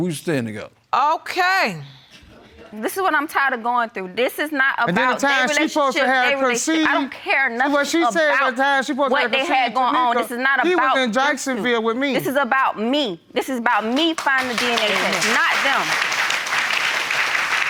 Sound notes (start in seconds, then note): 6.3 protesting; 14.0 audience applauding